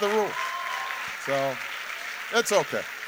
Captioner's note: audience cheering and applauding